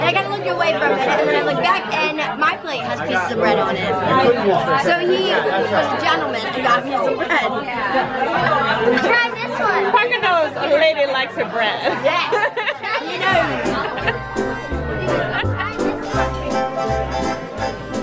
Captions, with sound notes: And I kinda looked away for a minute, and then I looked back and my plate has pieces of bread on it. So he was a gentleman and got me some bread. - Parker knows a lady likes her bread. (Laughing) - Yes, he knows. (lively music)